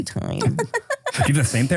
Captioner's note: laughs